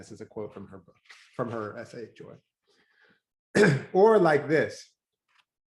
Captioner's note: clears throat